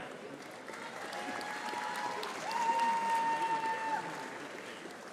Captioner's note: audience applauding